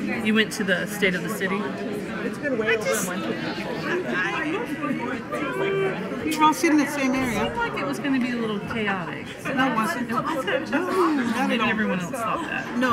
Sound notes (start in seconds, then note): 0.4 woman's Voice; 2.9 overlapping muttering; 9.9 woman's Voice